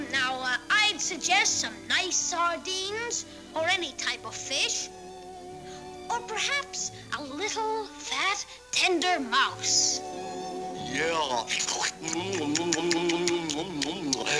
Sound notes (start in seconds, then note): 12.0 slurps & licks lips